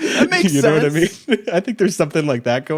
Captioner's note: laughs